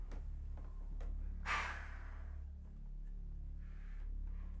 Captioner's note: clown sighs